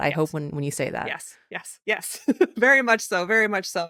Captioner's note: giggles